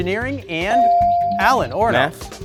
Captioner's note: bell sounding